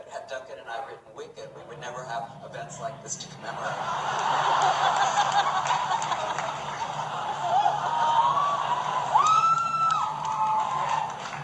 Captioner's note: audience Laughing